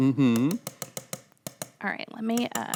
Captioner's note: spoon tapping metal pot